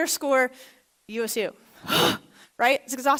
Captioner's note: gasps in exhaustion